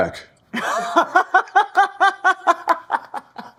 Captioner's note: laughing